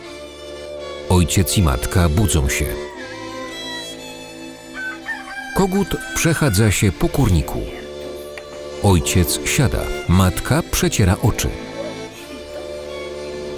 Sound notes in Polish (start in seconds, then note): 4.6 pianie koguta